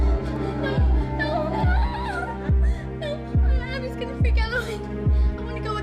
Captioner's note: crying